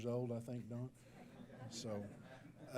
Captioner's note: laughter